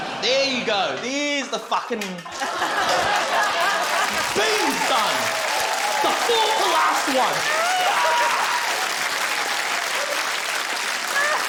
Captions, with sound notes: There you go. There's the fucking... (LAUGHTER, APPLAUSE) Beans done! The fourth-to-last one! (SCREAMS) (APPLAUSE CONTINUES)